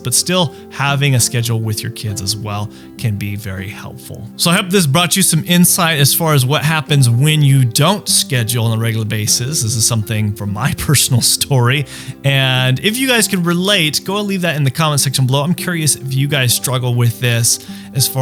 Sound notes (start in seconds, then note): 10.6 laughing